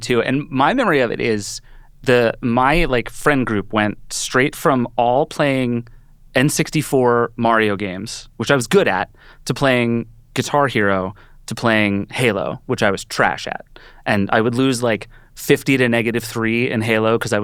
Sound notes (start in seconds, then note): none